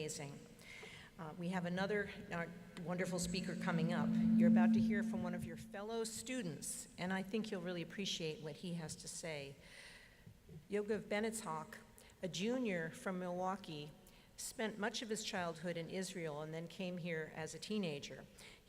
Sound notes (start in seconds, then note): none